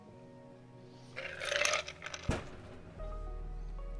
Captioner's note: ice clicking